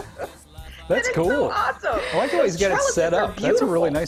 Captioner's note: laughter